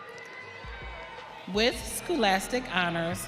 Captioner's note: audience cheering